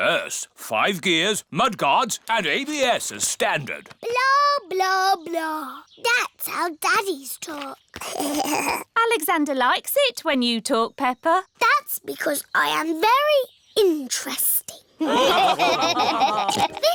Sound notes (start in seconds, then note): 8.0 alexander giggles; 15.0 laughter